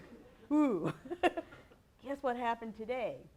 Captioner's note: laughs